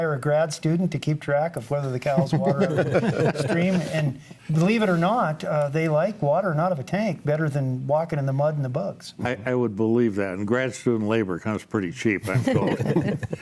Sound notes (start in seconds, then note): 4.0 group laughs; 12.2 group laughs